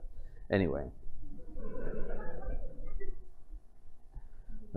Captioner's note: laughter